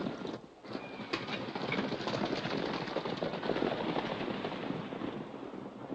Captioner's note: horses galloping